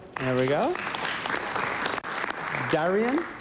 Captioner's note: applause